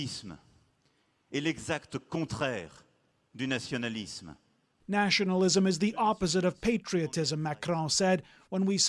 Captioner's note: speaking French